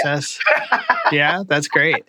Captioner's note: laughter